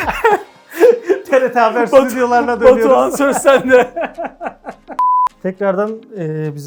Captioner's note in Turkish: kahkaha; kahkaha